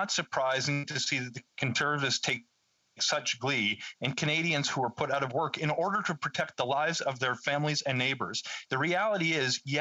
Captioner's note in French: voix de l'interprète